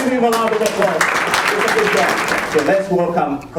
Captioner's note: applause